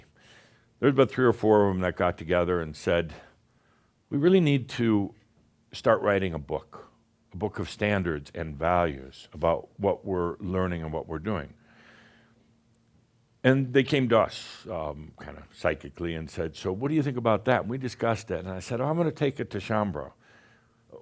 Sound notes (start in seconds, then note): none